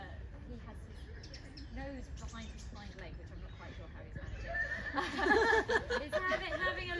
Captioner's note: laughter